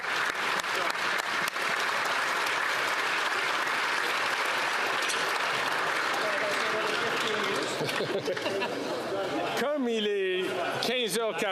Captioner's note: applause